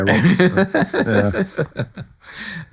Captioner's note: audience Laughing